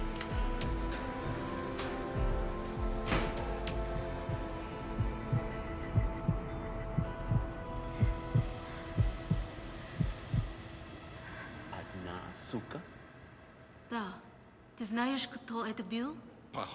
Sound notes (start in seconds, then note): 0.2 tense music; 11.8 Russian agent speaking in a foreign language; 14.0 Irina speaking in a foreign language